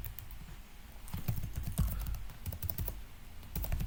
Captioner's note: typing noise